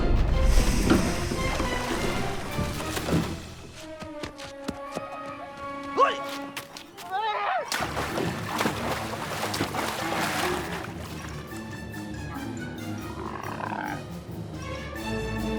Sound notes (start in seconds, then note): 6.8 Seymore shouting; 8.8 tense lively music; 10.1 Marvin splashing